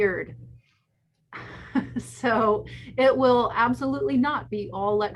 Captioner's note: laughs